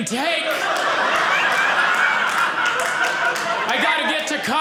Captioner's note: audience laughing